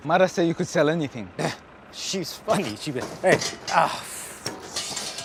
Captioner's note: groans